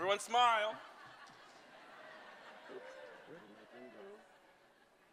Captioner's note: laughter